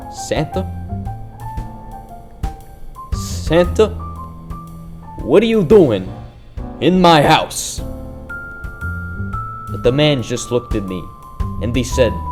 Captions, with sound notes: "Santa?" "S-santa...what are you doing in my house?" *In a buttery New York accent.* But the man just looked at me and he said, "Nothing."